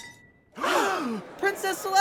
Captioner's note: crowd gasps